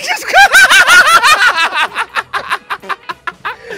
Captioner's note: Laughs Again